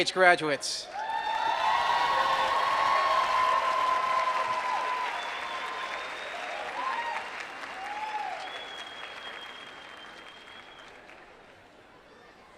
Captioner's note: applause